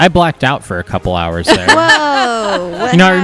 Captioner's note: laughs